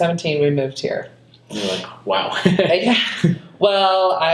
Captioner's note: laughs